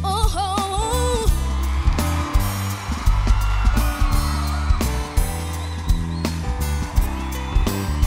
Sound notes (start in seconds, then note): 1.2 audience cheering; 2.6 instrumental music